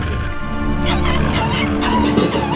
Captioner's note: dramatic music; laughing